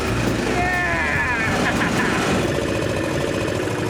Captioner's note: laughing